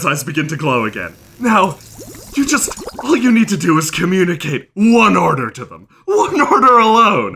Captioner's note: bubbling